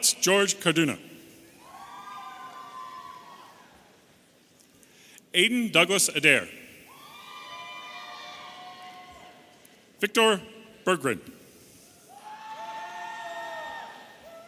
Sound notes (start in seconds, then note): 7.4 audience cheering